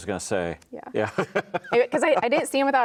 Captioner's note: laughing